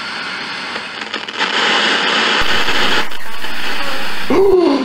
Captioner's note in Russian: радиопомехи усиливаются